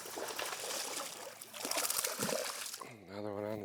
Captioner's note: water splashing